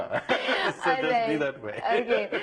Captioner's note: laughs